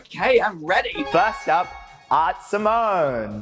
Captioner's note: chimes twinkling